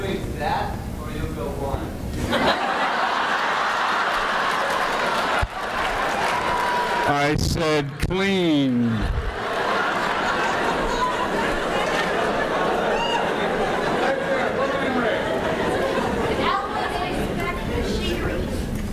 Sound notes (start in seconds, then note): 8.7 audience erupts in laughter